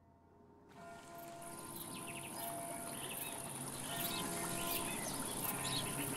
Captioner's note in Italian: Suono di campane in lontananza e suoni della natura